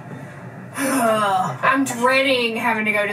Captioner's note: groans